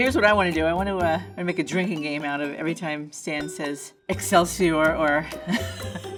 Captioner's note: laughs